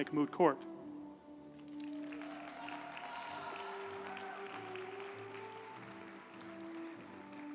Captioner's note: uplifting music; group applauding